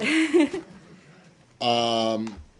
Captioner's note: laughter